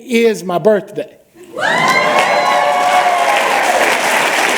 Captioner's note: applause